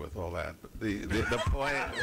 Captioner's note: laughter